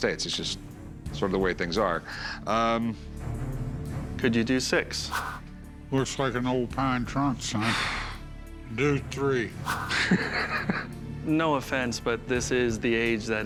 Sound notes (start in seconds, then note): 9.7 laughs